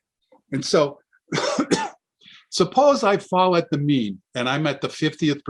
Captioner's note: coughs